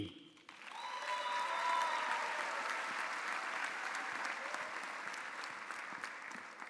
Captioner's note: audience applauding; audience cheering